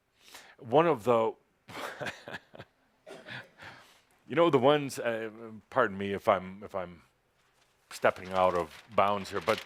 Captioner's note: chuckles